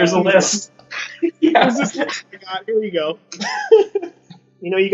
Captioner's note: interviewers continue laughing; laughs